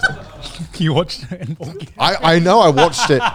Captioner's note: laughing